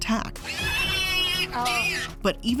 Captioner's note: pig squealing